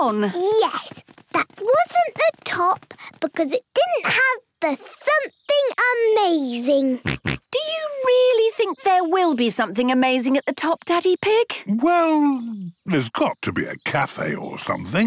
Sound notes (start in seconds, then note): 7.0 snorts